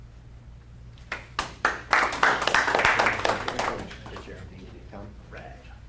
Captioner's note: applauding